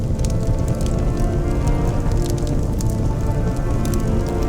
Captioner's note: bubbling, crackling